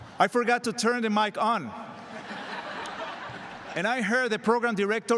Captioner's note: laughter